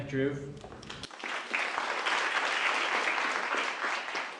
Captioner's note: applause